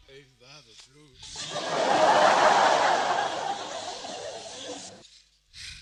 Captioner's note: laughter